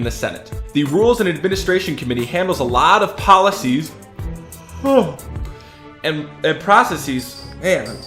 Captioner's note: yawn